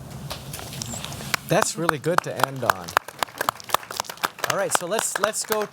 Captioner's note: applause